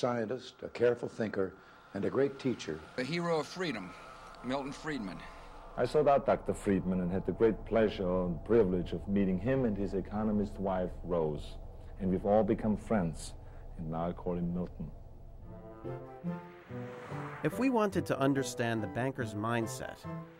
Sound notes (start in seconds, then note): none